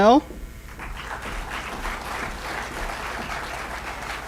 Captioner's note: applause